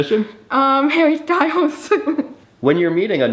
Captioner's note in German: lacht